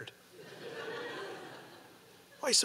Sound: audience laughing

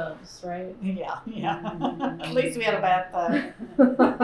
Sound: laughter

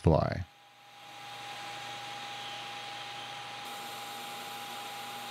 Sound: machine whirling

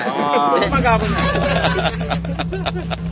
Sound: laughter

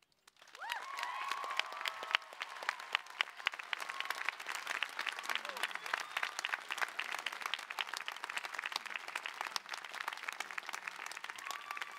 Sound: cheering

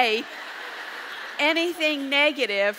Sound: audience laughs

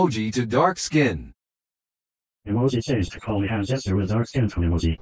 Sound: voiceover speaking

